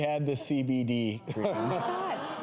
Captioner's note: audience reacting